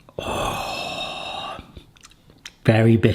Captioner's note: repulses